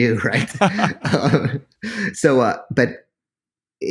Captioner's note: laughing